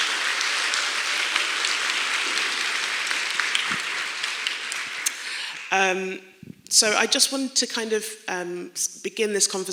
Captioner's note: clapping